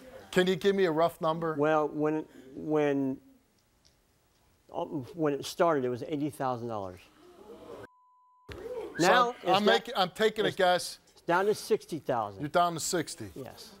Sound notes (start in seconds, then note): 7.0 audience gasps